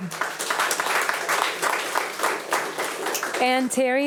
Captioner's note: attendees applauding